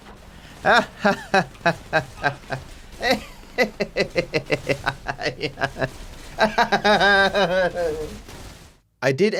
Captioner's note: laughs in pain